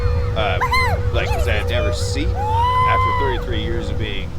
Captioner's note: aliens squealing